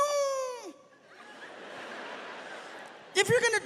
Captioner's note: audience laughs